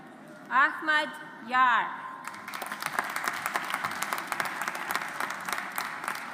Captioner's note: audience applauds